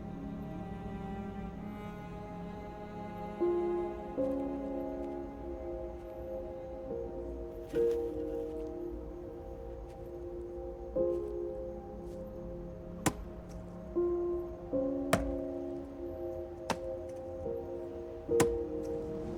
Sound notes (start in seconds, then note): 0.1 somber violin music; 13.0 ax hacking tree stump